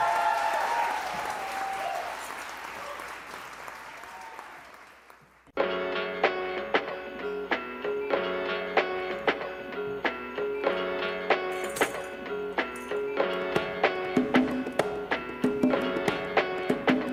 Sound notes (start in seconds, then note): 5.9 applause; 5.9 cheers